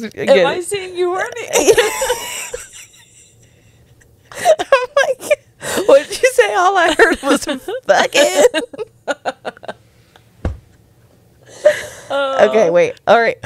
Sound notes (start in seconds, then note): 1.5 laughs; 9.0 panel laughing